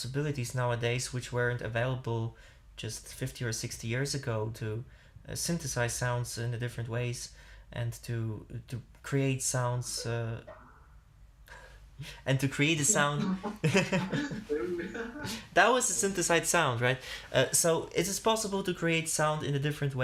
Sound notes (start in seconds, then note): 13.1 laughter